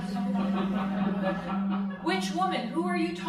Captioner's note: crowd laughing